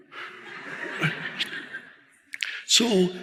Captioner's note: audience laughing